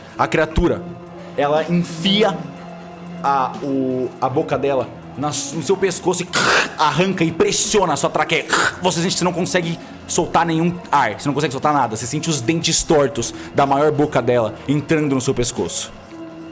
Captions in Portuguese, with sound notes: A criatura, ela enfia... a boca dela... no seu pescoço e [crch] arranca e pressiona a sua traqueia [crch] você sente que cê não consegue soltar nenhum ar. Cê não consegue soltar nada, você sente os dentes tortos da maior boca dela entrando no seu pescoço.